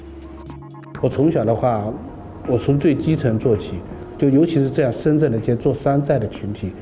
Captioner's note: speaker speaking in foreign language